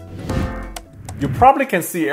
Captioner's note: air whooshes; upbeat instrumental music